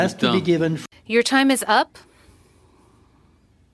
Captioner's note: speaking French